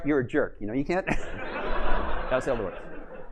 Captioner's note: laughter